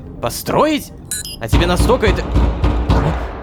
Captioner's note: knock on the door